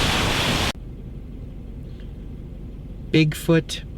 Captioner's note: car engine rumbling